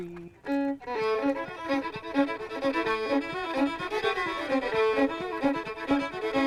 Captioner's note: feet tapping rhythmically